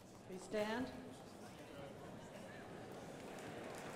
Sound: indistinct chatters; crowd applauding

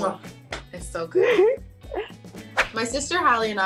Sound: Yara laughs

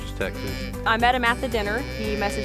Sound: cow mooing

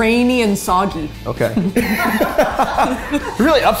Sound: laughing

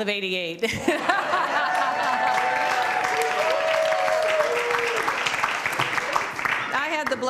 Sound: laughter and applause

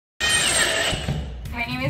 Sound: drill running

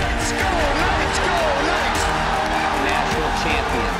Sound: crowd

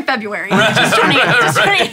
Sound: laughing

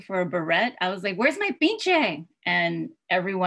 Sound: spanish

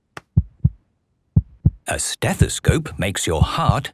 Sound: heart beating

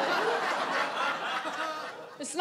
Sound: audience laughs

